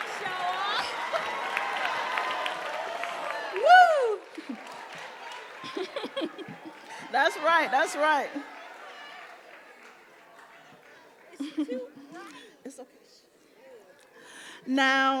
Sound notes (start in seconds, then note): 0.0 audience cheering and applauding; 5.4 chuckling